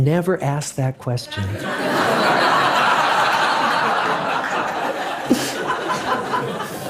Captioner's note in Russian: Смех